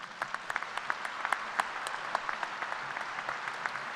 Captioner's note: applause